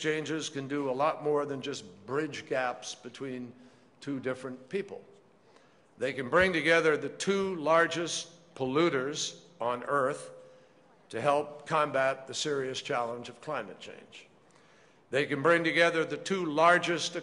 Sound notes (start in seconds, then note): none